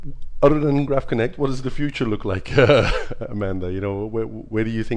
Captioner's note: laughs